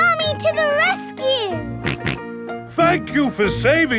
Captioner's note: snorting